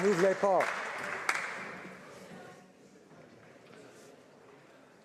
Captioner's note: applause